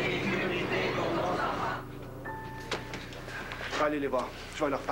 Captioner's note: Tous scandent